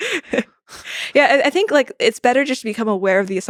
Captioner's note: laughs